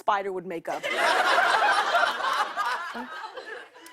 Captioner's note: laughter